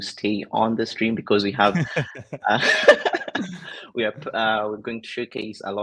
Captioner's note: both laughing